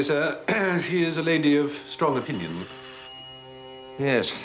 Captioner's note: doorbell rings